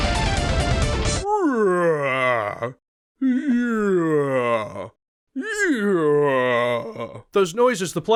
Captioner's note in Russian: постоянная наигранная зевота